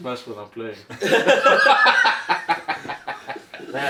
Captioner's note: laughing